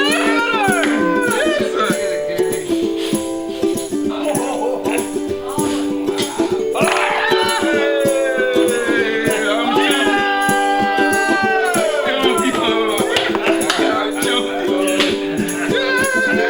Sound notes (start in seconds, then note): 0.0 clapping, celebrating; 6.9 all shouting; 13.9 clapping, laughing